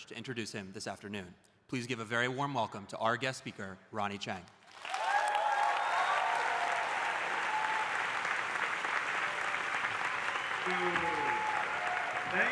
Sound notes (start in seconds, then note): 4.7 audience applauding; 4.8 audience cheering